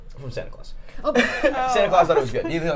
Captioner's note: laughs